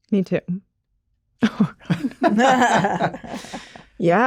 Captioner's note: hosts laugh; laughs